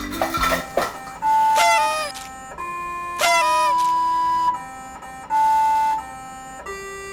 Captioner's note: melodic beeping; party horns blowing